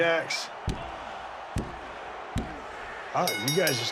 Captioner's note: hand slamming